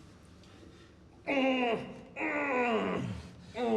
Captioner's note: groaning